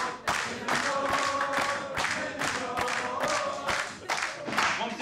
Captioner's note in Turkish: Hep bir ağızdan; Alkış sesleri; Hep bir ağızdan; Alkış sesleri